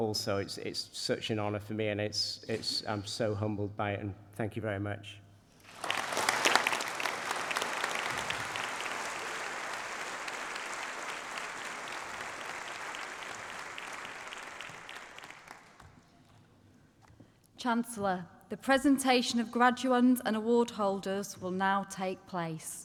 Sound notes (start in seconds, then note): 5.6 applause